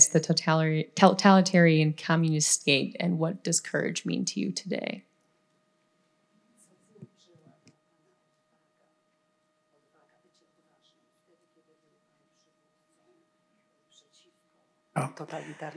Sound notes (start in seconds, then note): 7.6 foreign language